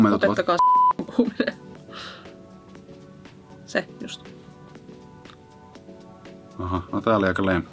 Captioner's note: beep